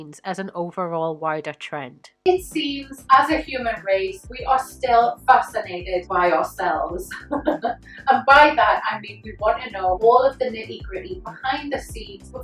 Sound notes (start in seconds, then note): 7.1 laughs